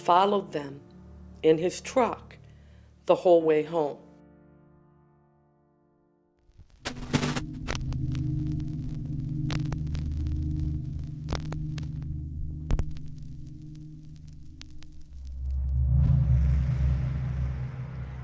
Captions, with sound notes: followed them in his truck the whole way home. (crackling static)